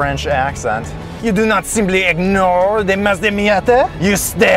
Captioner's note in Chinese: 假装法国口音